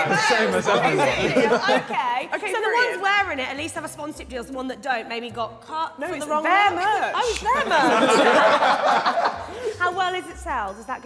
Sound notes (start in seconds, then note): 7.2 Sidemen laughing